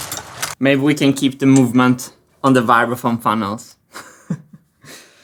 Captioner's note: laughs